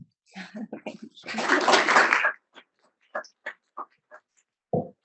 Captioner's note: audience applauding